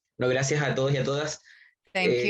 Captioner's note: speaking in Spanish